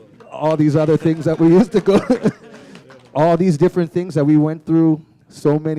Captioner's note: chuckle